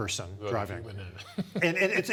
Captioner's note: laughs